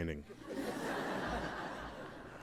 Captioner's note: laughter